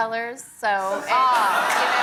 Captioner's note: laughter